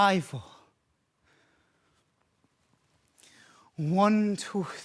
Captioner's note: soft breathing